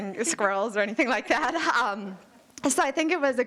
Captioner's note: all laughing